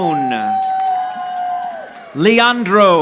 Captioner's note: audience applauding